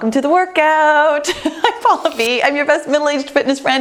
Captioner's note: laughs